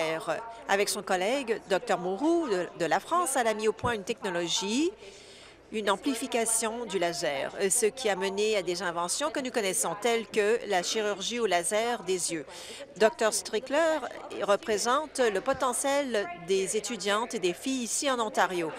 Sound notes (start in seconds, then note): none